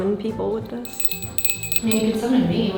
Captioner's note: bell jingling